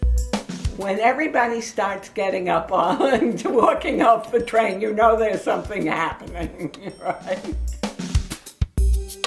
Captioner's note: laughing